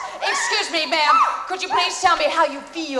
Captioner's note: waitress yelps